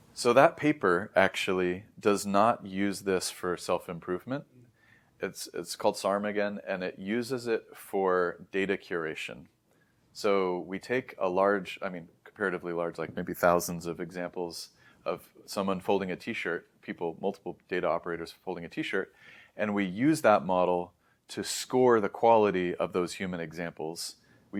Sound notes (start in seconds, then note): 19.1 inhales